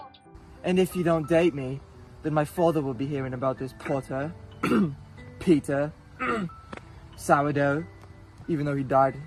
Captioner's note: cough